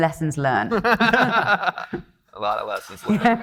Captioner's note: laughing